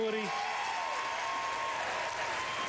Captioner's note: applause